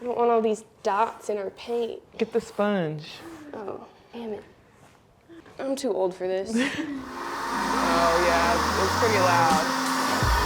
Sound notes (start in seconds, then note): 6.6 chuckles